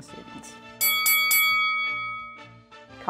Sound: bell rings

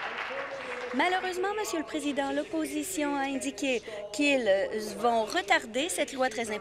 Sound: applause

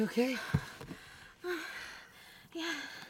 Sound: heavy breathing

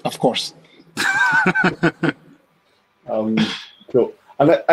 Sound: laughs

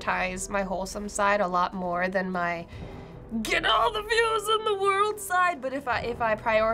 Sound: deepens voice

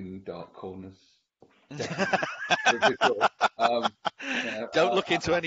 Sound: laughs

